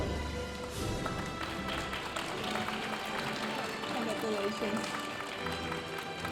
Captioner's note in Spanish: aplausos de la audiencia